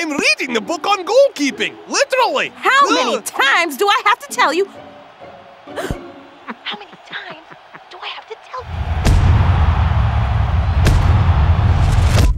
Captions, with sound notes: - I'm reading a book on goal keeping, literally. - How many times do I have to tell you? (gasps) How many times do I have to tell you? (crowd cheering)